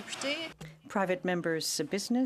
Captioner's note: speaking French